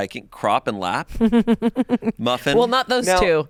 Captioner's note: laughs